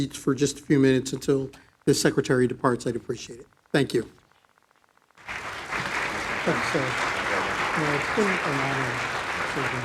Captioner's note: applause